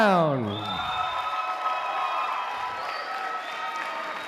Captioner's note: applause